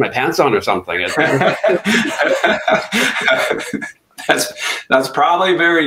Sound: laughing

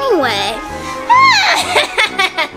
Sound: evil laughter

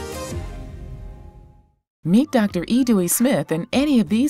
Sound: voiceover

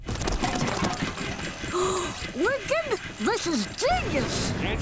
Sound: gasping

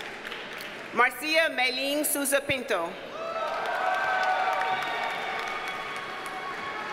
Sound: audience cheers and applauds

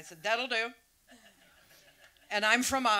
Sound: audience laughs

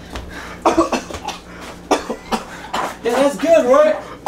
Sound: cough

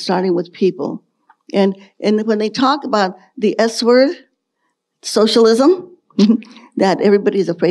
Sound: chuckles

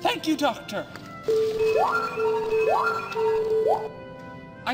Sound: celebratory beeping

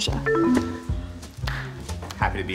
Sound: sad beeping sound

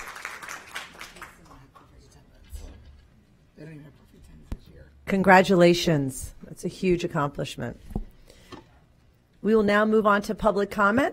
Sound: applause

